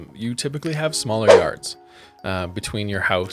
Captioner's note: air whooshing